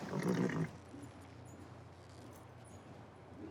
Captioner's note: horse nickers